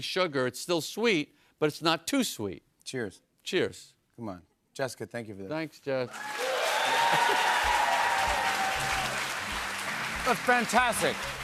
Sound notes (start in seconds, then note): 6.0 cheers and applause